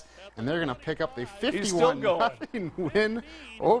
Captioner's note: laugh